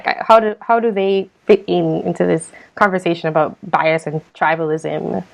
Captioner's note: none